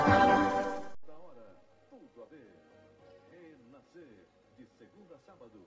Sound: male announcer speaking Portuguese quietly

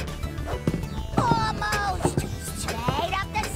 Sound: thudding

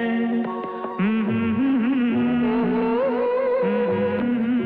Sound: humming

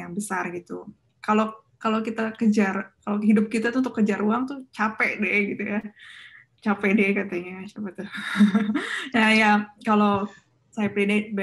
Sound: chuckles

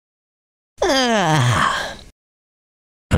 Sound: yawns

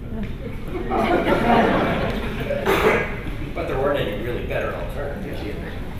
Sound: laughter

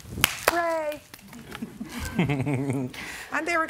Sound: laughter

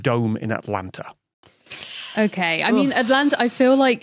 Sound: winces

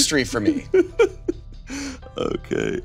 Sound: laughing

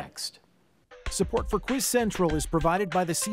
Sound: voiceover

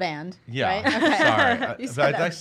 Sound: laughing

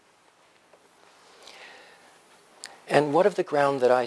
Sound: pause

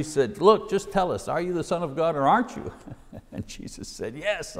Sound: chuckles

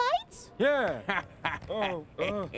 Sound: chuckling

